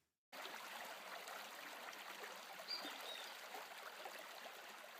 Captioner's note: water flowing